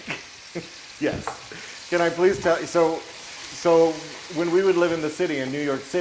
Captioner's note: laugh